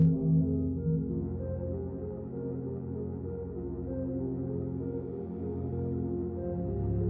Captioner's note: melancholy orchestral music; humming